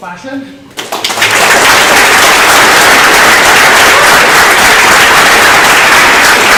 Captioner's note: applause